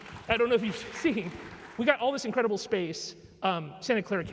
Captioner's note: applause